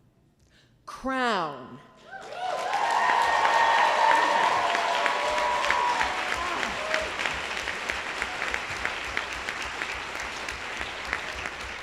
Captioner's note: applause